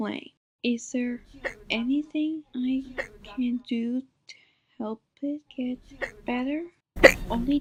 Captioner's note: hic!